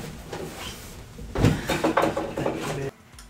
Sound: sighs

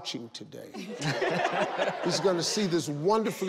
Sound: laughs

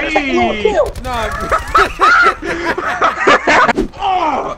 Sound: laughing

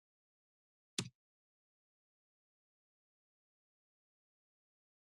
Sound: silence

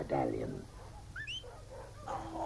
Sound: whistling

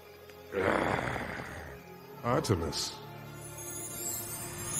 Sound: grunting

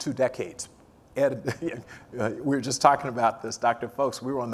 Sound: laugh

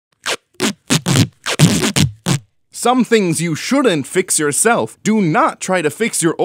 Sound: tape peeling sounds

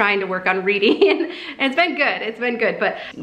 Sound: giggles

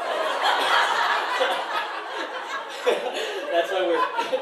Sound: laughter

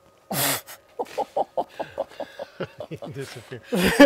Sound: laughs

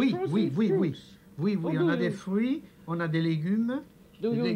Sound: speaking French

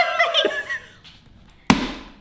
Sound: laughs; hammer banging

